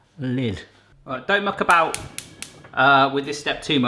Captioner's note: clicking; metal clanging